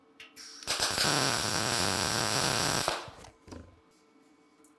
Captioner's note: sparks hissing